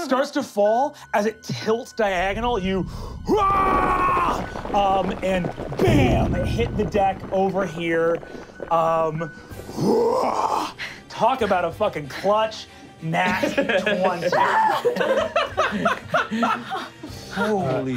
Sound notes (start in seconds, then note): 3.0 roaring; 9.6 roaring; 14.4 screams; 15.4 laughing